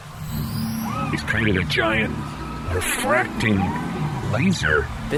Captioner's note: melodic humming noise